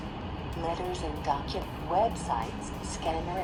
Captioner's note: computerized Voice